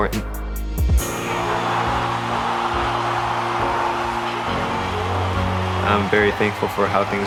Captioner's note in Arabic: تشجيع الجمهور